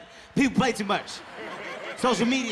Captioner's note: audience laughing